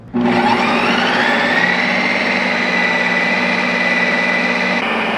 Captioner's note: Ninja Creami thrumming